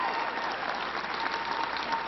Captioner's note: applause